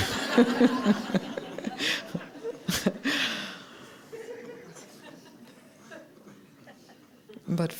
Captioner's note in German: Gelächter